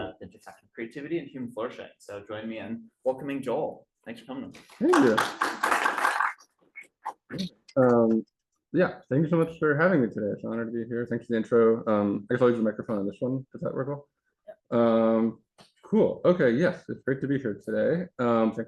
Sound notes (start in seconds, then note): 4.8 audience applauding